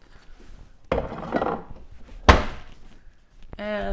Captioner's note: cabinet closing